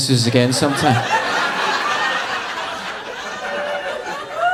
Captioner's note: audience laughing